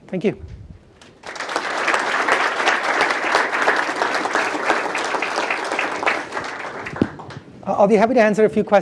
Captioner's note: applause